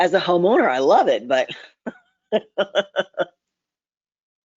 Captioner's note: laughs